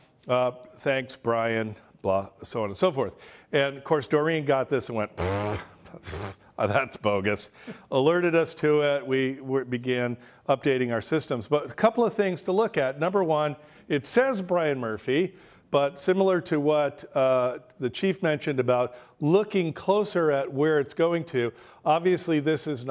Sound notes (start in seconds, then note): 5.1 blows raspberries